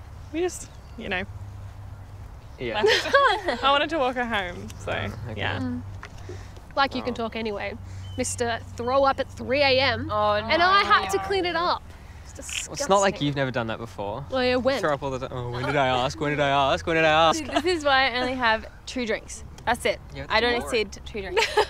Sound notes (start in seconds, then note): 2.8 Beth laughing; 2.8 laughing